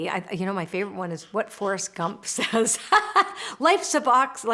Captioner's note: laughs